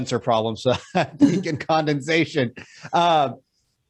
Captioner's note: chuckles